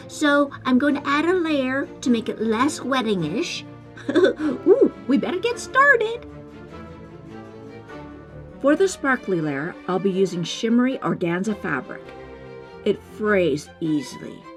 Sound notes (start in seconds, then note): 4.0 giggle